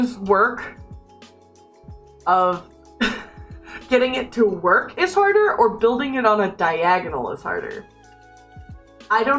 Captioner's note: laughs